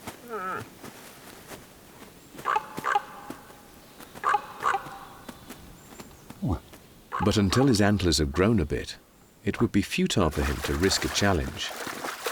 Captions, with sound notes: [animal calling] But until his antlers have grown a bit, it would be futile for him to risk a challenge.